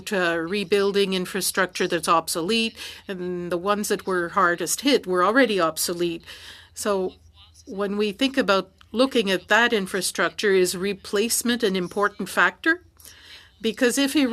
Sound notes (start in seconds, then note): 5.5 speaking french